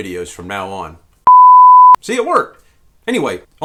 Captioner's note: beep